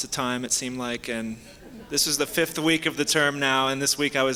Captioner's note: soft laughter